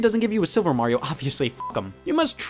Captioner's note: beeps